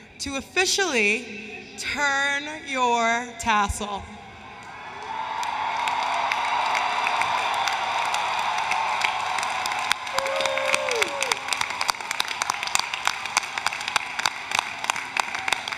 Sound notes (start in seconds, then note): 4.6 applause, Cheering